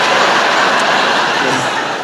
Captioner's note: laughter